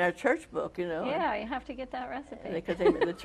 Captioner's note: laughs